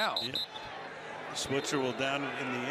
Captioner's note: whistle blows